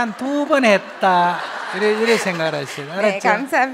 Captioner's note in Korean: 질문자와 청중 웃음